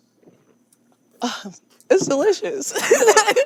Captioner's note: laughs